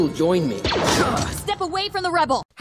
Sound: blaster shot

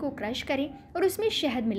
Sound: hindi

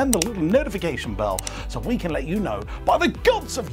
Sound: mouse clicking

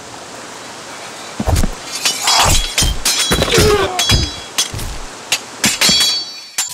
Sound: swords clashing, grunts

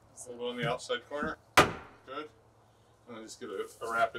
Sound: sledge hammer knocks

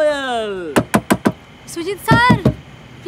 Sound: knocking

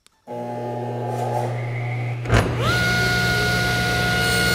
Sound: panel cutter buzzing

